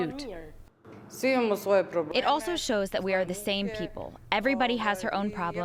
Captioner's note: through translator